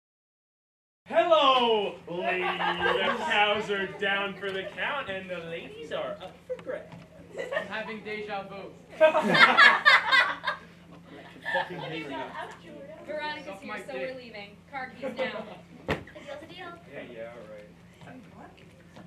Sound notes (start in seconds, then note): 2.2 audience laughter; 8.9 laughter